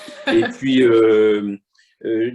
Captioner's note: laughter